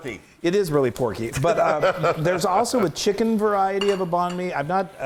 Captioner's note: laugh